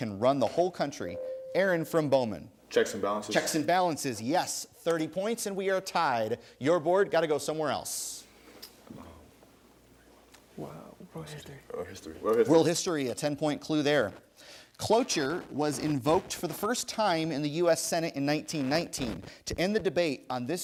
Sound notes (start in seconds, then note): 1.1 ding